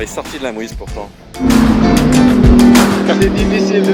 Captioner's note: engine roaring